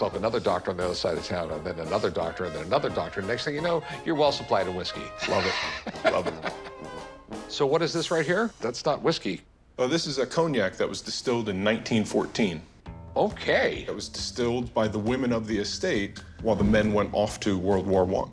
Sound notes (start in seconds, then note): 5.2 laughing